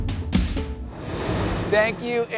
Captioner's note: air whooshing